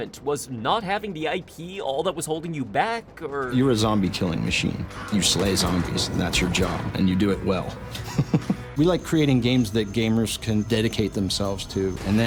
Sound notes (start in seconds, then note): 7.9 laughs